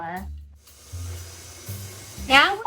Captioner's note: mixer buzzing